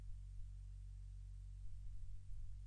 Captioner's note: none